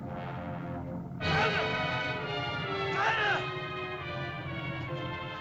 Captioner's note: dramatic music; Akhoba shouts; dramatic music